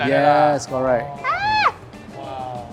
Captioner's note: scream